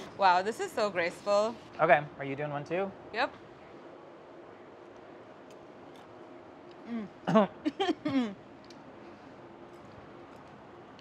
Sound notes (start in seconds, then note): 8.0 clears throat